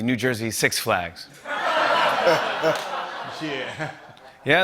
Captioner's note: laughter